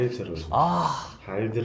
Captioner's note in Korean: 감탄